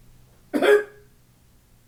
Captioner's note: coughs